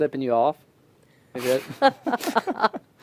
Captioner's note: laughter